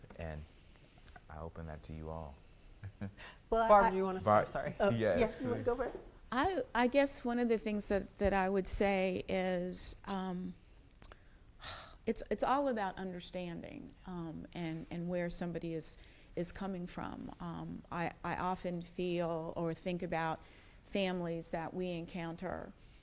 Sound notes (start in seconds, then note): 2.8 laughs; 9.7 sighs